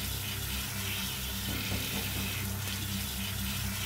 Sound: knocking on door

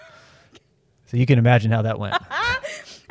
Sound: laughs

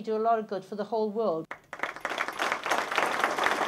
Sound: applause

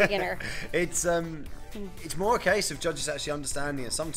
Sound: laughs

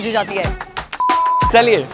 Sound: beep

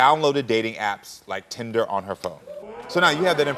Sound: audience oohing

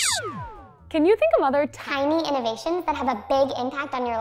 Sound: high-pitched voice

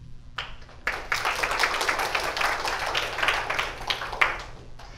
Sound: applause

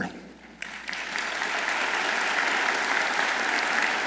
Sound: audience applauds

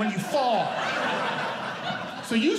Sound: audience Laughing

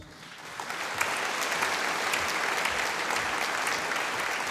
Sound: audience applauding

